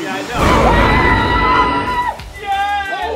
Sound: screaming

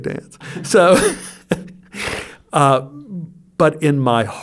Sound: he laughs

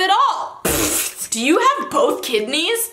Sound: puffs

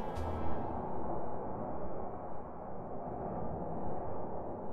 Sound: wind blowing

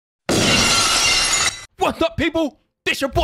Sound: glass shattering

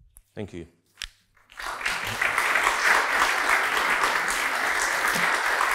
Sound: attendees applauding

